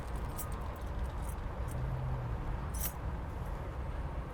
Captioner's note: keys clink